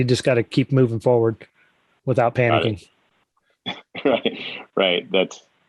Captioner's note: laughs